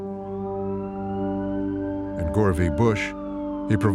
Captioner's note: siren blaring